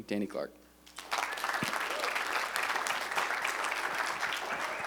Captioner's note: applause